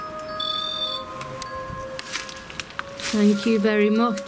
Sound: sensor buzzes

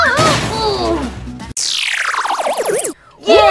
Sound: crash; futuristic zapping

